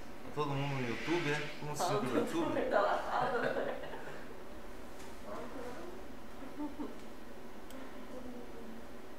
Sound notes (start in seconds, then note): 2.7 laughs